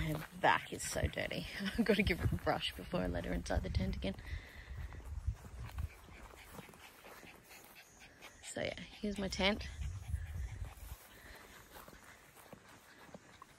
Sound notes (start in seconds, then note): 1.2 laughs